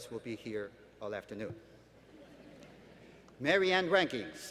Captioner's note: laughter